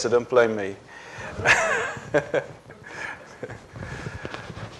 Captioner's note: laughter